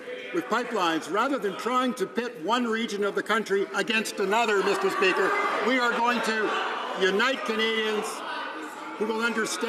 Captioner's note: some Applause